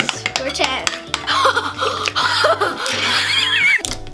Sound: laughing

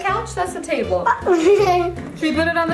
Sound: laughs

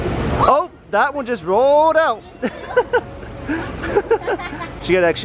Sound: laughing

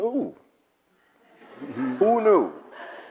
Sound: audience laughs

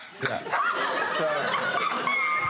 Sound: laughter

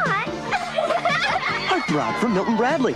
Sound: everyone giggles, high from poprocks

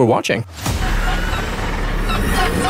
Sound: Screech

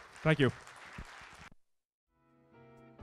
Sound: applause

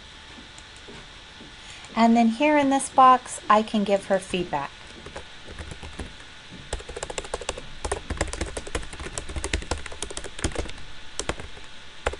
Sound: typing

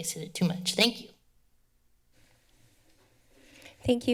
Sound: pause

